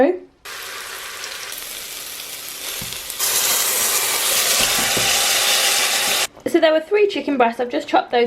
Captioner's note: sizzling onions